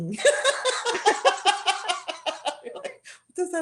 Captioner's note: laughter